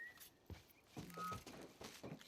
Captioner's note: whistling